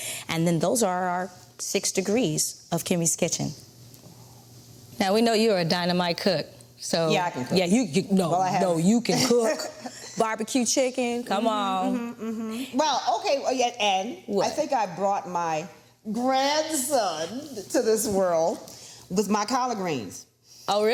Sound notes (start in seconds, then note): 9.8 Vernee laughs